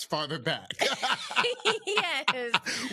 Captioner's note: both laughing